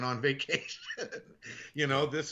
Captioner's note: laughing